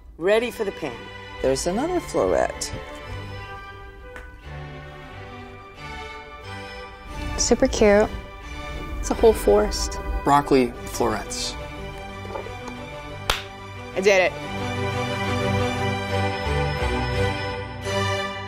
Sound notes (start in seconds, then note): 2.9 upbeat music; 13.2 clapping; 15.3 orchestral music